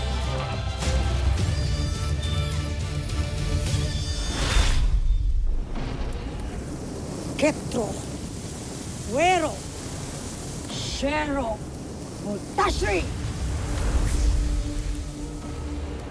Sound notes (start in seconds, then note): 3.0 dark magic whooshing; 7.3 speaking in enchanta; 13.2 eerie music playing